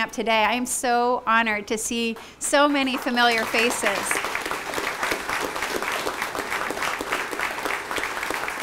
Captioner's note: applause